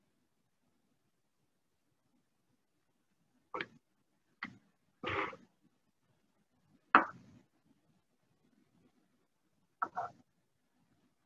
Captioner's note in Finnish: hiljaisuus